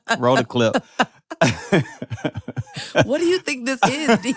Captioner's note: laughs